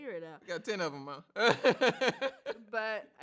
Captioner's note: laughs